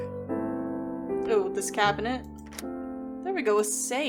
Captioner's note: lock Clicks